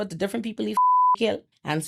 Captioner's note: beep